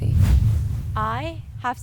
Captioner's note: percussive whoosh